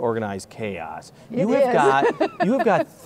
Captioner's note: laughing